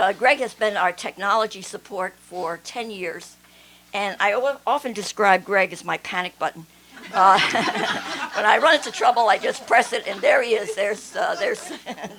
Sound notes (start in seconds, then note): 7.0 laughter